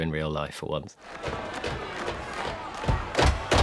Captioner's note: clapping and feet stamping